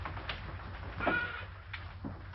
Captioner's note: parrot squawks